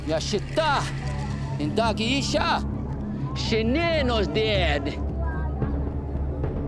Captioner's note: responds in native language; speaking native language